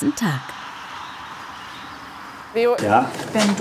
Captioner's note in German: Vogelzwitschern, Straßenlärm